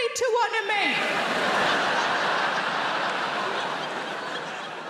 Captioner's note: audience laughs